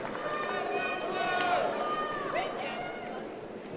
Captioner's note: cheers and applause